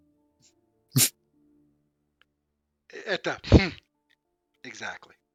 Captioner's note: scoff